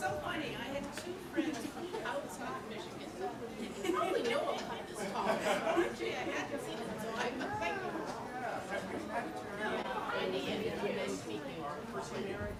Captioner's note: audience chatter